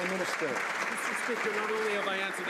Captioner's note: some Applause